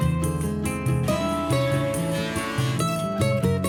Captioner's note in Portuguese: som da serra